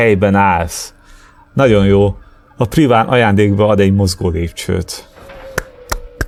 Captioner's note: claps